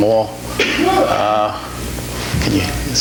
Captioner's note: audience member sneezes